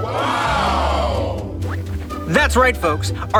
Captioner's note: crowd; woosh